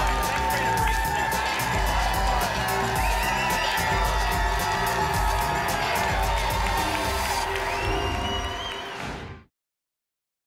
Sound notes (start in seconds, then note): 7.8 whoosh